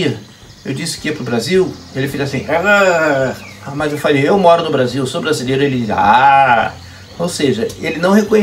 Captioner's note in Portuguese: mudou para uma entonação melhor